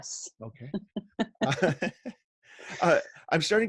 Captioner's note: laughs